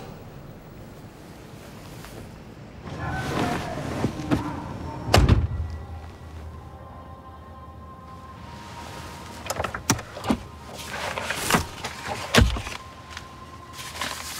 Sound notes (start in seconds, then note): 11.0 paper rustling